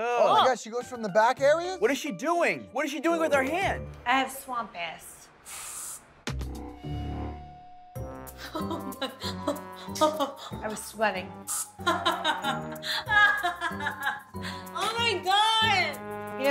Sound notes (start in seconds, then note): 6.5 aerosol sprays; 8.4 Snooki laughs; 11.4 aerosol sprays; 11.5 Snooki laughs